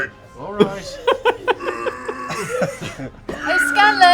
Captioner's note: straining